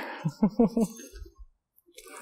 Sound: successful stab chuckle

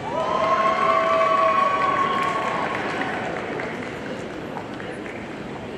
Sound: audience cheering and applauding

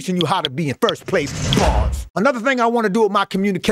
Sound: bars slamming

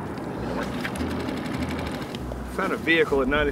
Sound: laughs; boat engine rattling

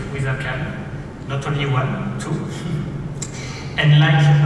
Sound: laughs

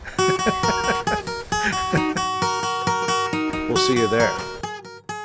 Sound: laughter

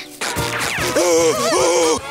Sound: groaning

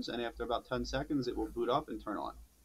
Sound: none

